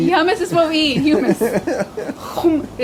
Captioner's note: laughs